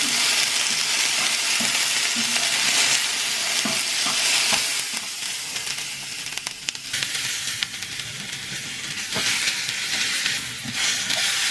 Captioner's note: cooking & sizzling sounds